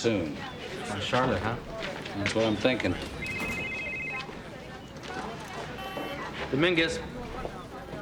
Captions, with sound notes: - On Charlotte, huh? - That's what I'm thinking. (phone ringing) (beep) - Dominguez.